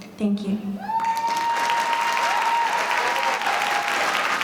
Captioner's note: audience cheering